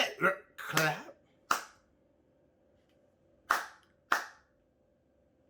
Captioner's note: claps